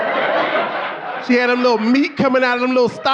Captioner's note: audience laughing